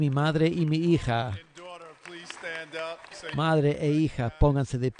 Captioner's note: applause